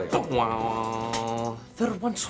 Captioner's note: Russell imitates instrument strumming